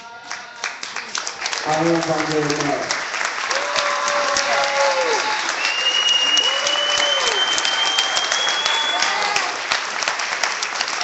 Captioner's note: clapping